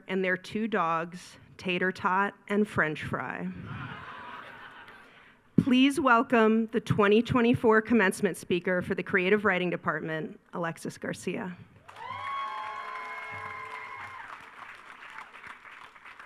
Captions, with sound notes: and their two dogs, Tater Tot and French Fry. (attendees laugh) Please welcome the 2024 commencement speaker for the Creative Writing Department, Alexis Garcia. (attendees cheering)